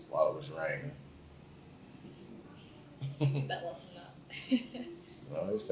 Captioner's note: laughs